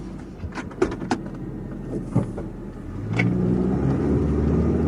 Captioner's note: car engine revving